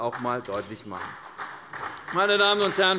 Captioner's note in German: Beifall bei der CDU